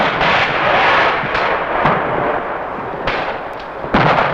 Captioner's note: guns blasting